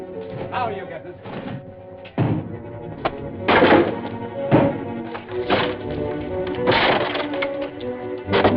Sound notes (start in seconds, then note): 1.1 wood cracking